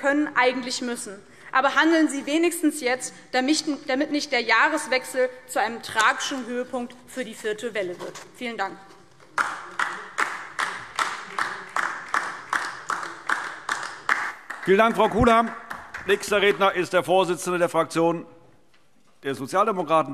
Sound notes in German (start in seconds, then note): 9.3 Beifall DIE LINKE